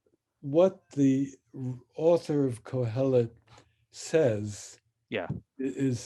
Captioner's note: speaks in Hebrew